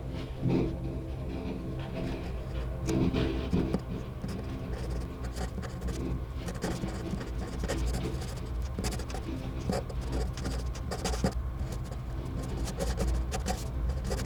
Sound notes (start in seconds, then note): 2.1 pen writing on paper sound